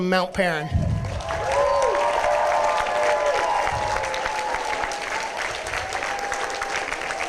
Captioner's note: applause, cheering